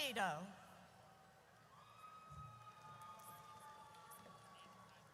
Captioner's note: audience cheers